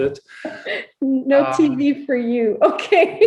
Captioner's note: laughs